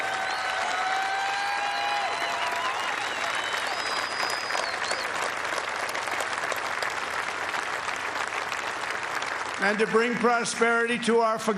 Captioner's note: cheers and applause